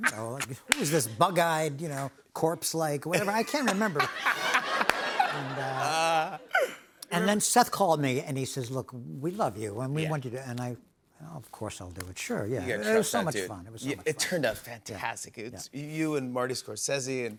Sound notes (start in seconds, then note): 3.2 laughs